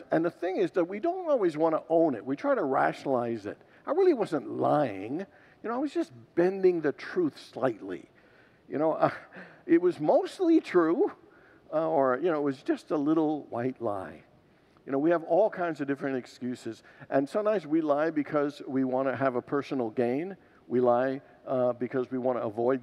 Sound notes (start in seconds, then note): 8.9 laughs